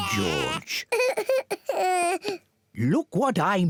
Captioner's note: cries